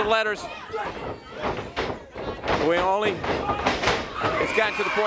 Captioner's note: crowd chatter